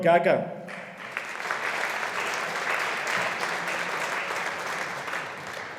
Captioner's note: audience applauding